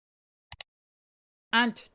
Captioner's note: click sound